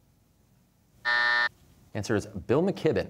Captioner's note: buzzer